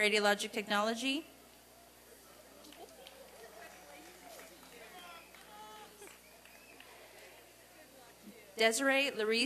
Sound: applause and cheering

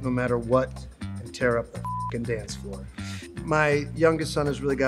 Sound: beep

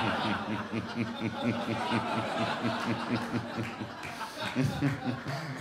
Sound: giggles

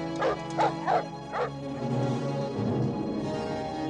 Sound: dog barking

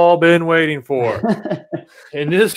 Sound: laughs

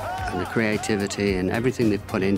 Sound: crowd cheering

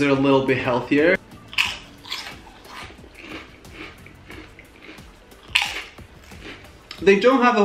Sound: crunches

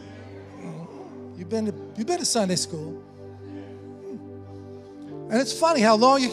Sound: congregation affirming

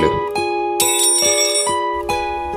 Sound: metal Drop Sound

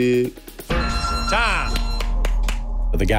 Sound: claps

